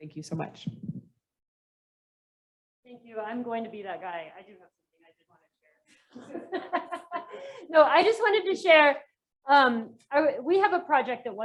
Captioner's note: laughter